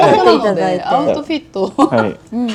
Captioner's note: laughs